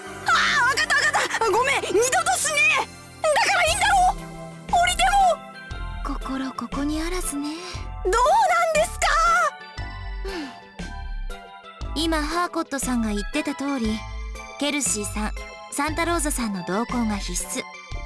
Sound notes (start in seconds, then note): 10.2 sigh